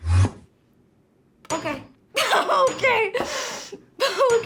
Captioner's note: laughs